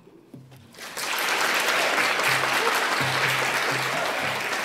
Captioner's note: applause